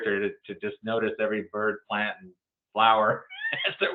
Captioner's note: laughs